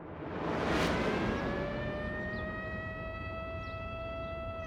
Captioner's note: siren wailing